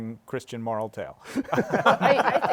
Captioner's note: laughter